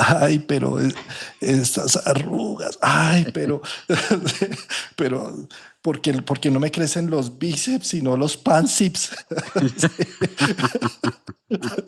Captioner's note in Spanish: risas